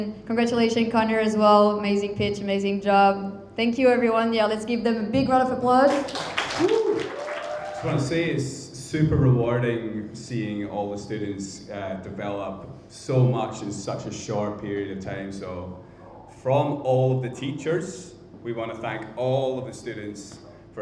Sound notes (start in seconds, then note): 5.9 crowd applauding; 5.9 crowd cheering